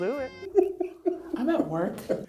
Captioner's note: laughing